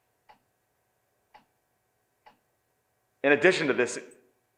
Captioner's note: clock ticking